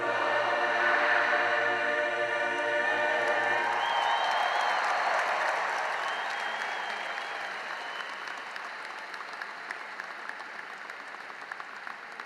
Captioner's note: cheering and applause